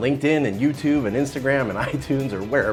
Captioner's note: laughs